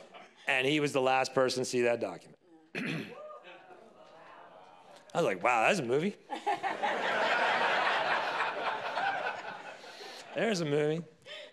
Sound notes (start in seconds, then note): 6.3 audience laughs